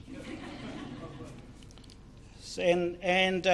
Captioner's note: audience laughter